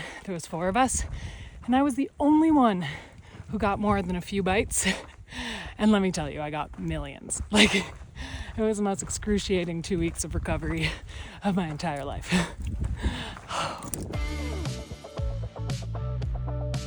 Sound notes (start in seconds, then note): 5.0 chuckles; 14.1 upbeat music